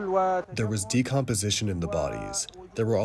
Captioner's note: through translator